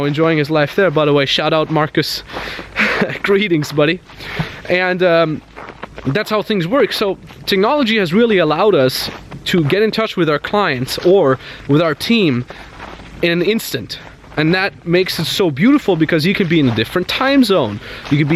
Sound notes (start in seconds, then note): 2.6 chuckles